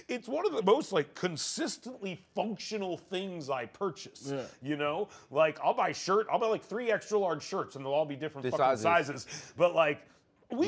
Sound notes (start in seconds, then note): none